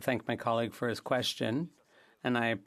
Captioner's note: speaking French